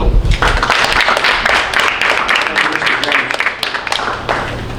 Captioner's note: audience applauding